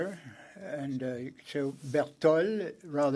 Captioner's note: speaking French